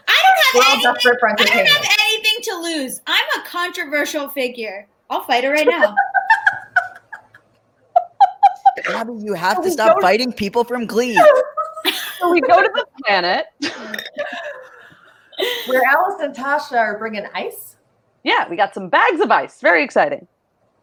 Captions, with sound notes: I don't have anything to lose. I'm a controversial figure. I'll fight her right now. (laughs) - Gaby, you have to stop fighting people from "Glee." (all laughing) - So we go to The Planet. - Where Alice and Tasha are bringing ice. - Yeah, we got some bags of ice, very exciting.